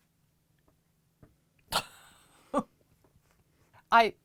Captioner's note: chuckling